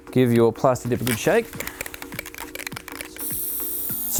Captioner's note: can rattling; can hissing